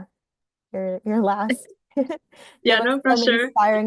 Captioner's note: laughing